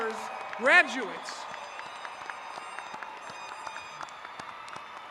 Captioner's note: applauding